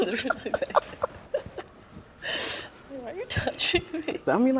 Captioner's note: laughing